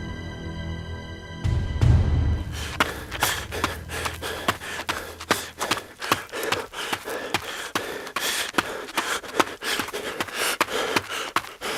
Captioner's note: footsteps running and heavy panting